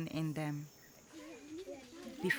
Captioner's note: girls chattering